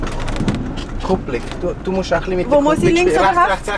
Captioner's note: in Swiss German